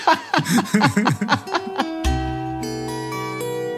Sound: laugh

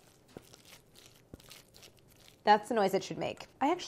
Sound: wet squishing

